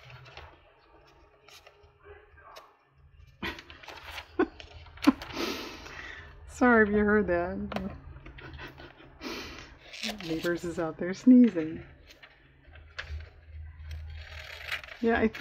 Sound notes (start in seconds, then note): 4.9 laughs